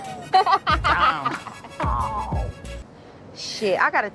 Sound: laughter

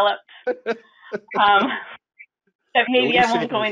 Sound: laughing

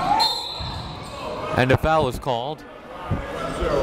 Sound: whistle blows

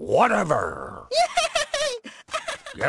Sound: laughs in delight

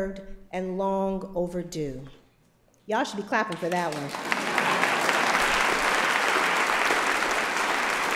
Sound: applause

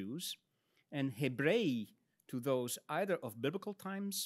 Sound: speaks in Latin

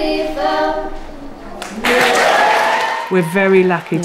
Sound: audience applauding

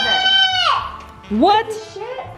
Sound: screaming

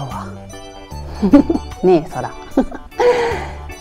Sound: laughs

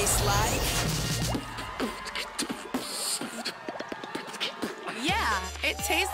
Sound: beatboxing

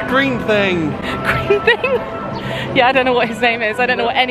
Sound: laughs

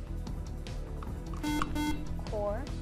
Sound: buzzer

